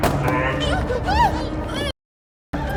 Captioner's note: Mia moaning